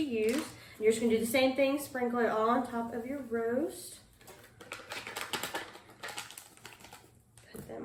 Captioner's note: package ruffles